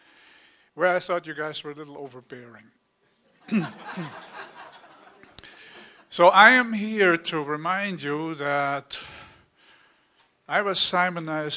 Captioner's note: laughter